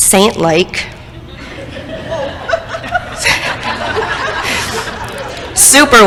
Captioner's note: crowd laughter